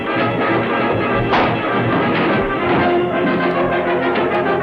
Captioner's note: punch lands